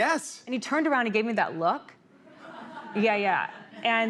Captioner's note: laughter